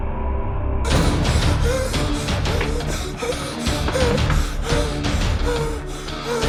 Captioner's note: dramatic music; heavy breathing